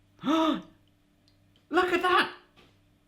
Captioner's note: gasps